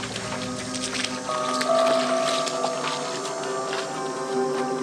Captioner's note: water splashing